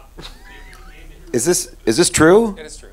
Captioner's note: laughing